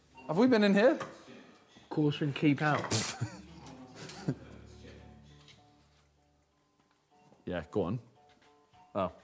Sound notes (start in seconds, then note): 3.9 man laughs